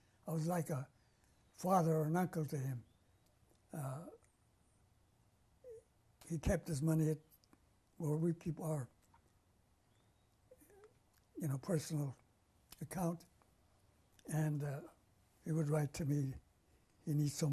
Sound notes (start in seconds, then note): 2.8 pauses for 3 seconds